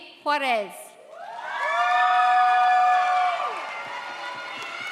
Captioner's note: audience cheers